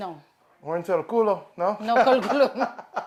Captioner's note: speaks in a foreign language